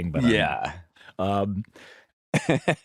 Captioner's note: laughs